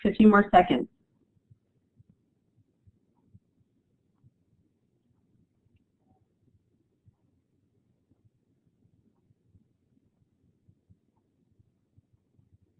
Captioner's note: silence